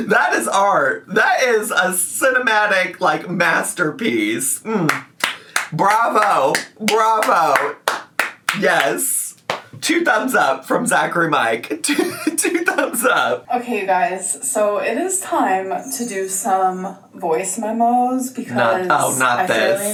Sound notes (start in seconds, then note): 4.8 clapping